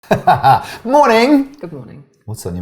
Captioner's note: laughter